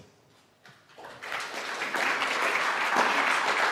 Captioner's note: applause